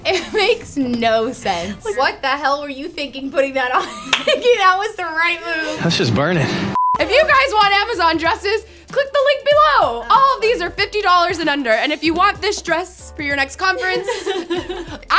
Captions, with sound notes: It makes no sense. What the hell were you thinking putting that on (laughs) think that was the right move? - Let's just burn it. - If you guys want Amazon dresses, click the link below. All of these are $50 and under. And if you want this dress.